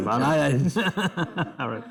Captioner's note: laughter